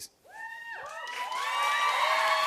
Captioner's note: cheers and applause